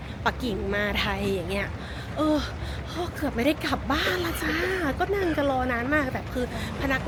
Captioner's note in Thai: เสียงหัวเราะ